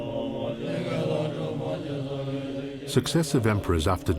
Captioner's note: group chanting